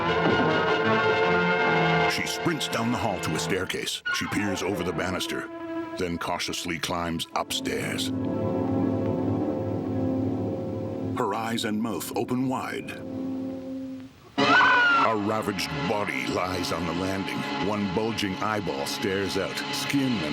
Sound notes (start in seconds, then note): 6.5 tense instrumental; 14.4 Barbra screaming